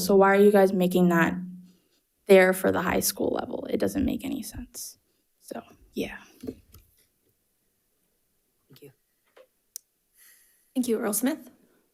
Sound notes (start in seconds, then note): none